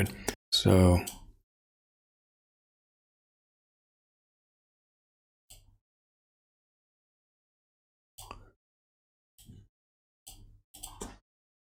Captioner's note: blank Audio